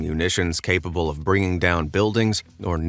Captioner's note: none